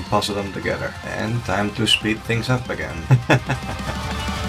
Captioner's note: laughs